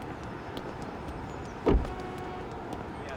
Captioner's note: door closes